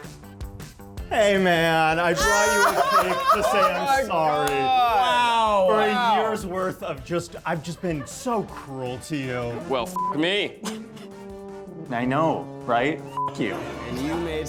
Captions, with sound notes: Hey man, I brought you the cake to say I'm sorry. (everyone laughing) - Oh my God! - Wow! - For a years worth of just, I've just been so cruel to you. - Well, (beep) me! (laughs) - I know, right? (beep) you.